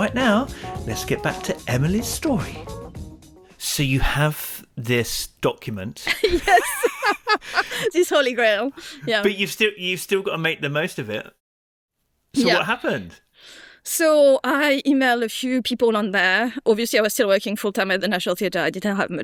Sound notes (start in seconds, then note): 6.1 laughs